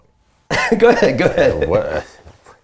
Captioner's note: laughing